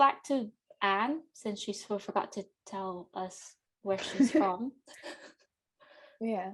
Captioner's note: laughs